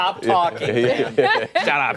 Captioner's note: laughter